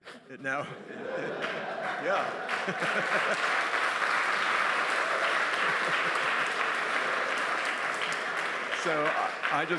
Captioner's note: applause